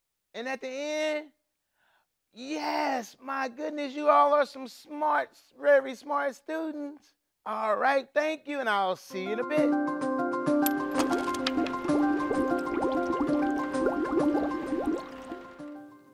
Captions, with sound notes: And at the end? Yes! My goodness, you all are some smart, very smart students. All right, thank you. And I'll see you in a bit. (bright music) (water bubbling)